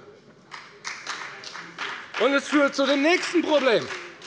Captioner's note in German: Beifall bei der FDP